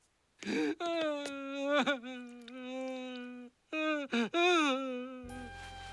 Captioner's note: sobbing